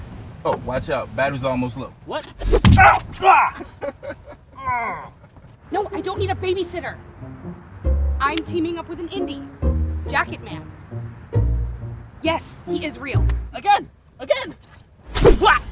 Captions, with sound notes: Oh, watch out. Battery's almost low. What? –(laughing) –(pained groaning) No! I don't need a babysitter! I'm teaming up with an indie. Jacketman. Yes. He is real. Again! Again!